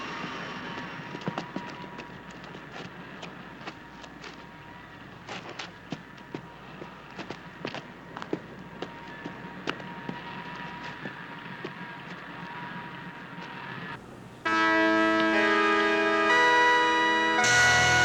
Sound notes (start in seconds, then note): 7.1 footsteps clomping; 15.0 electronic music